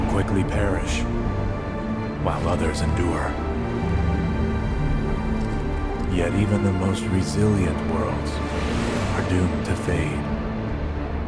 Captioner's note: shudder